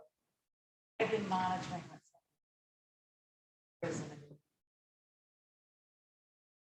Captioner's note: faintly speaking